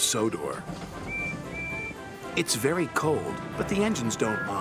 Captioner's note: whistles